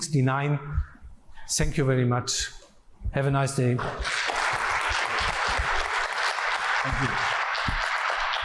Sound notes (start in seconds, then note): 3.8 applause